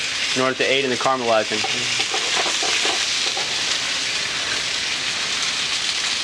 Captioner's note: pan sizzling